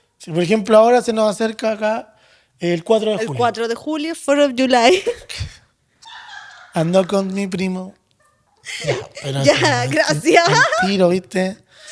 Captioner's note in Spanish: risas